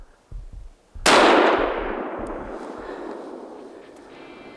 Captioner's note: gunshot